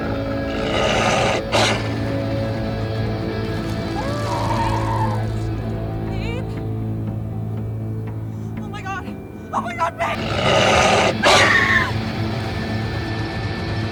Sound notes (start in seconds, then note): 0.0 wolf growling; 3.5 screams; 10.0 werewolf growls; 10.1 screaming; 13.7 dramatic music